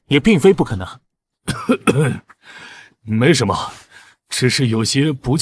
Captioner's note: cough cough